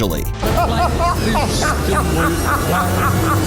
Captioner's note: laughing